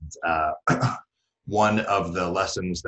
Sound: clears throat

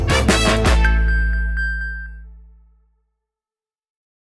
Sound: iphone pinging

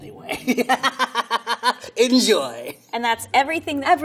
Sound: laughs

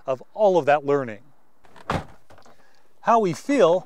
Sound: sound of vehicle door closing

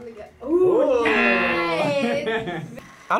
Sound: buzzer

